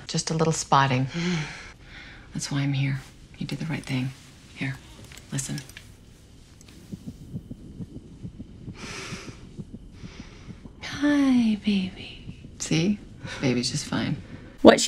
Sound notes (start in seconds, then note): 6.3 heart beating; 11.1 sniffs